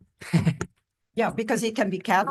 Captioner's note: laughing